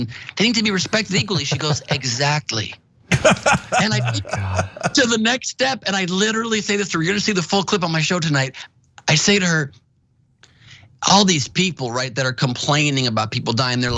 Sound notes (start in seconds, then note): 3.1 laugh